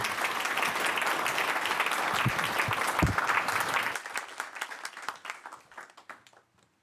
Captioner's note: applause